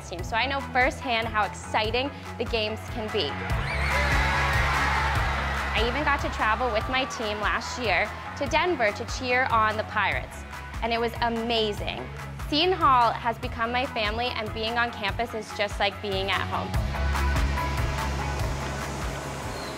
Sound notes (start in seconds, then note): 3.2 crowd cheering; 17.0 upbeat music; 19.4 bird chirping